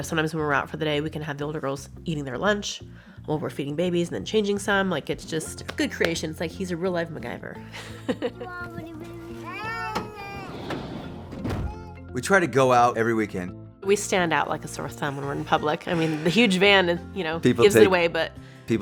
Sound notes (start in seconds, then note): 7.8 laughs; 9.0 door closes